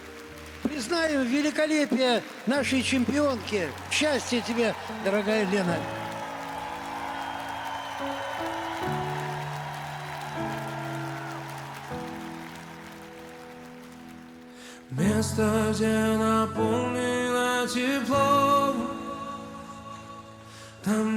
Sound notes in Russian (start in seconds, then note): 7.9 аплодисменты; 9.5 ликование